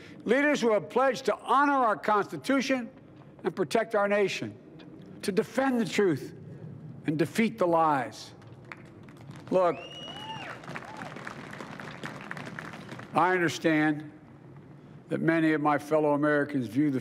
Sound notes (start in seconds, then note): 8.4 applause